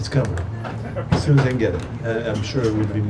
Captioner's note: laughs